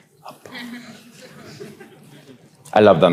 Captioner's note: audience chuckles